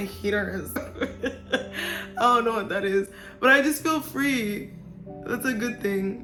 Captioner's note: laughs